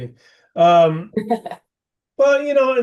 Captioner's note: laughing